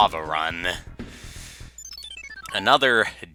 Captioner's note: inhaling